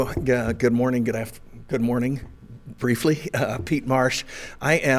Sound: chuckles

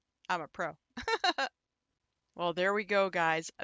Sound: laughs

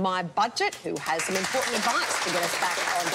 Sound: applause

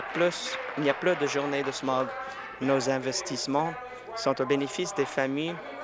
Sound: applause

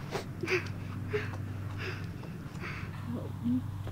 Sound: whimpers In Pain

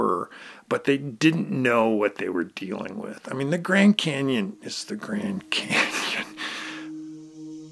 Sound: laughter

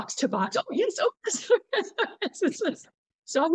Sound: laughter

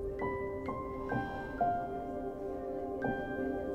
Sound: exhales

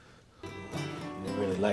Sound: sighs; guitar playing

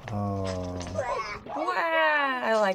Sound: girl groans

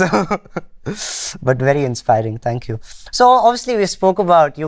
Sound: laughter

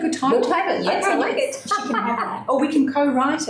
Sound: laughs

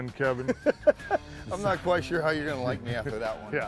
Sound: laughter

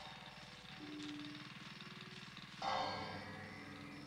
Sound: none

